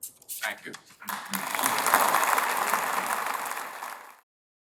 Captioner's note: applause